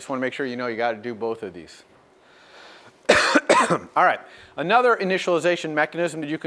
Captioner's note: cough